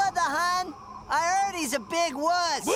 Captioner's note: wind howls